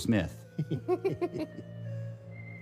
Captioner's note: chuckling